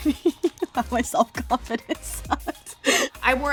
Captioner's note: laughing